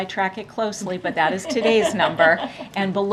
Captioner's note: laughter